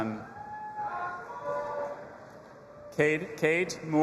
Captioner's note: audience applauding and cheering